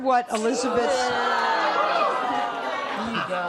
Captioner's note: audience booing